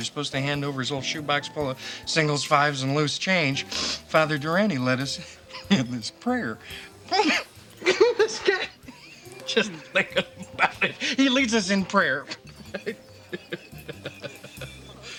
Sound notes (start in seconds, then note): 7.8 Tommy laughing